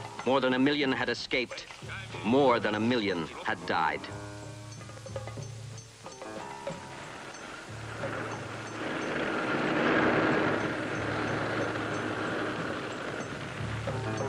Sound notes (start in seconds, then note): 9.2 tank rumbling